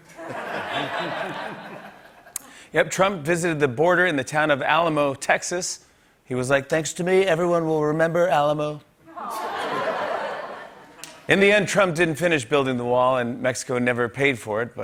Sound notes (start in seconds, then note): 0.0 laughter; 8.6 light laughter